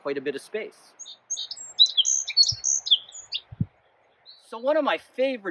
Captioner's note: birds singing